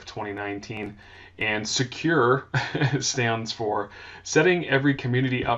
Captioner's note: laughs